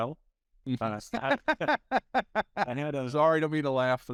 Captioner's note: laughing